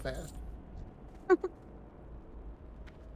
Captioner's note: giggles